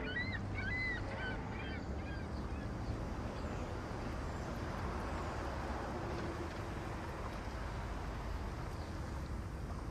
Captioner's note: seagulls cawing